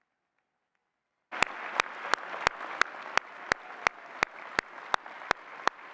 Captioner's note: applause and cheering